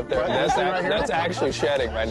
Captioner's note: laughter